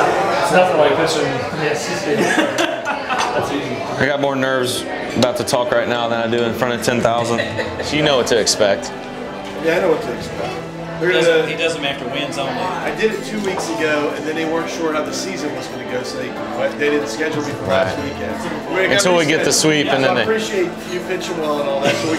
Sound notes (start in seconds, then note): 2.1 laughter